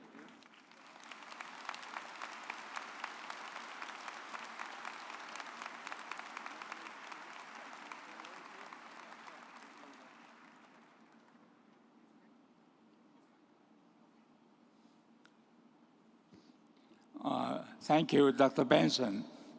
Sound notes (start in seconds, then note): 1.9 audience applauds